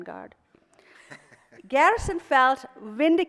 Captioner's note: laughing